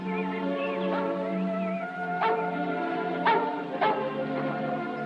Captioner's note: dog Barking